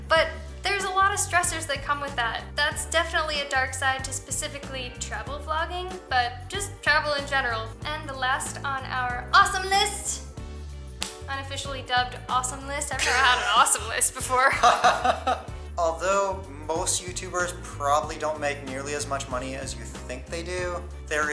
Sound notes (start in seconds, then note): 14.4 laughter